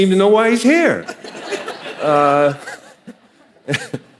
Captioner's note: audience laughing